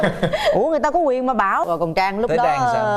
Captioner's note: laughing